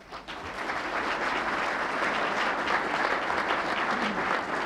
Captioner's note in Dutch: publiek klapt